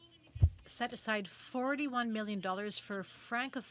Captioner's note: speaking french